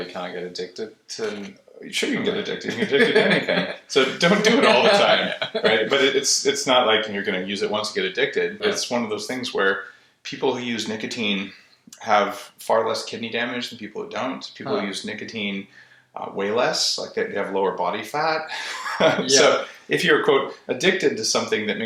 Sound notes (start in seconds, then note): 2.6 laughter; 18.4 laughter